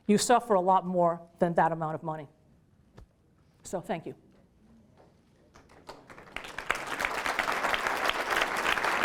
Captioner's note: applause